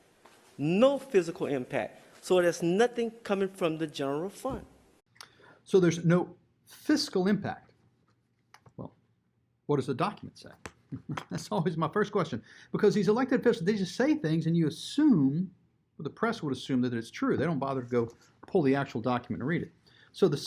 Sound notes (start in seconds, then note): 10.9 chuckles